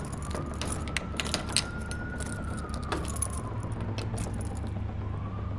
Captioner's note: door being opened